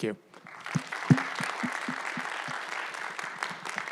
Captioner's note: audience applauds